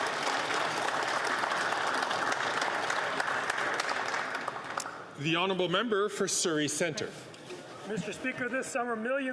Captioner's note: some Applause